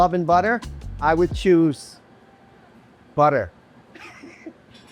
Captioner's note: laughs